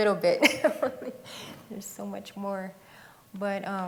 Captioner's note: laughs